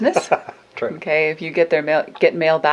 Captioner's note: laughing